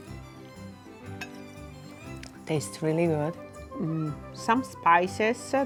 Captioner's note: utensil hitting plate